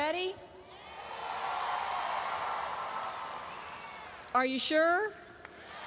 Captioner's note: audience cheers